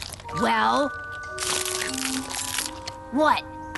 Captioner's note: crackling